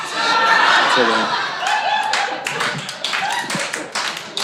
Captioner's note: audience laughing